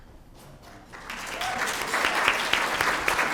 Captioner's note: applause